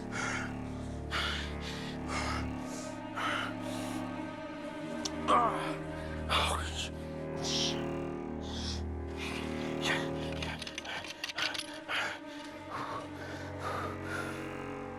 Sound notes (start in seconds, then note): 5.0 groans; 12.3 exhales deeply